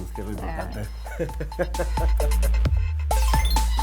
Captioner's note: laughs